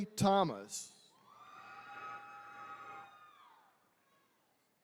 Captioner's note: attendees cheering